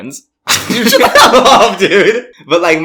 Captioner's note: laughs